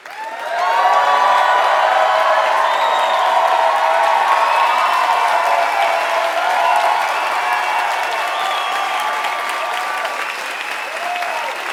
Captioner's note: applause